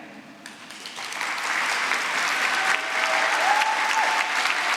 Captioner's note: applause